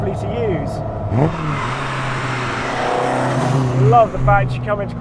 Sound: engine revving

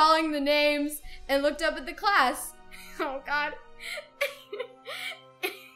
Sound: laughs

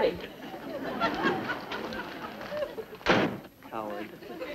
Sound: audience laughs

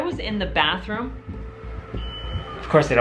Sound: beep

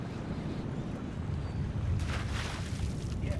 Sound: fish splashing

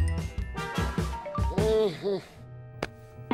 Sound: groans

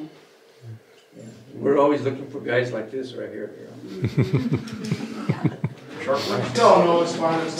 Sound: laughter

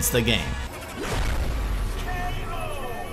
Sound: intense rumbling

